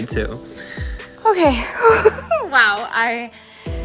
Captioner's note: sighs